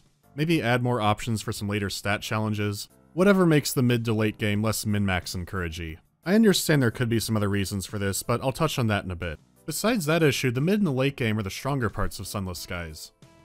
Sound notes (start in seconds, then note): none